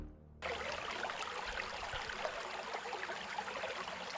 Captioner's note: water lapping